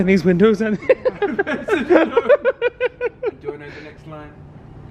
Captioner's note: both laughing